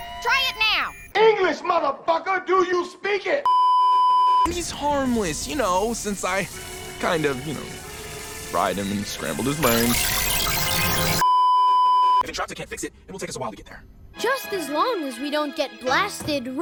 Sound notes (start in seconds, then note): 3.5 beeeeeeeeeeeep; 10.7 oscillating yells; 11.2 beeeeeeeeeeeep